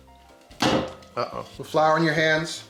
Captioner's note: dough bangs